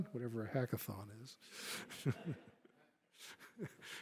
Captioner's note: laughter